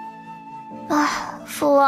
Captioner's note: sigh